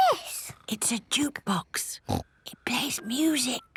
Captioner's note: whispering